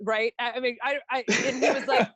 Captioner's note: laughing